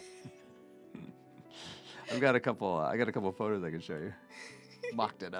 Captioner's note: laughing